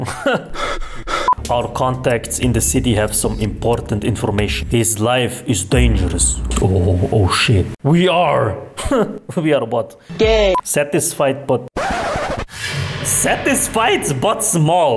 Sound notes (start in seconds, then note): 0.0 chuckles; 0.5 breathing